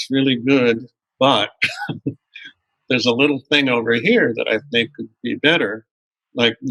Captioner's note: laughter